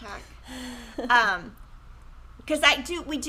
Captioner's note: chuckles